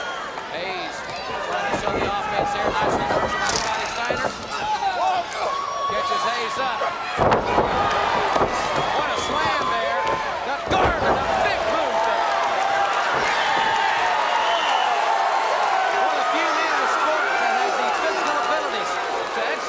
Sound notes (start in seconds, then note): 10.9 audience applauds